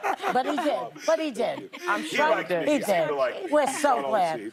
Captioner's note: laughter